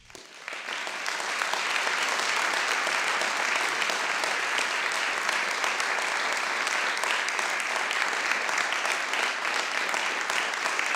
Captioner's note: applause